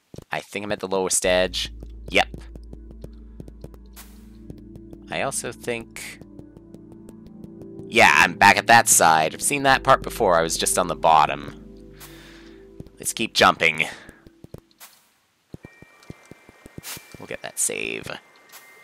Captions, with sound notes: I think I'm at the lowest edge. Yep. I also think- Yeah, I'm back at that side. I've seen that part before. I was just on the bottom. (*inhaling*) Let's keep jumping. We'll get that Save.